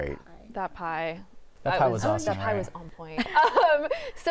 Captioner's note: laughs